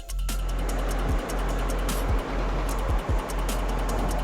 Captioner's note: engine humming